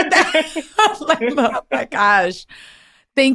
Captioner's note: laughs